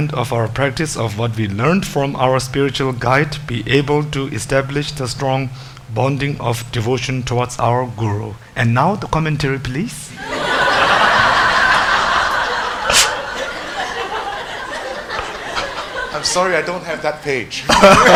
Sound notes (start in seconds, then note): 10.2 audience laughs